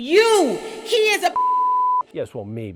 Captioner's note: beep